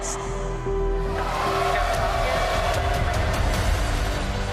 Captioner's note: cheering as rocket launches